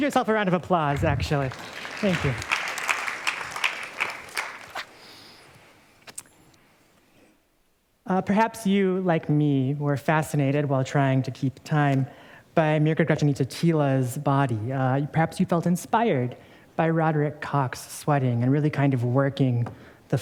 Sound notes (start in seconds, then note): 2.5 applause